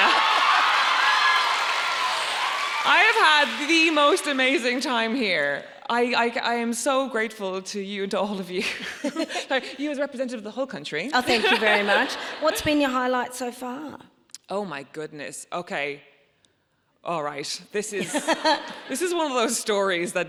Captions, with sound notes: (audience cheering and applauding) I have had the most amazing time here. I am so grateful to you, to all of you, like, you as representative of the whole country. - Oh, thank you very much. (audience laughs) What's been your highlight so far? - Oh, my goodness, okay, all right. This is one of those stories (Myf laughs)